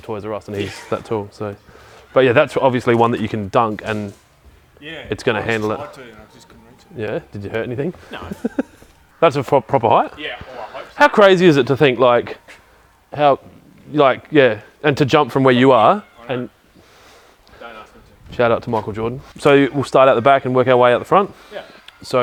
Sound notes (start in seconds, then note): 7.9 laughs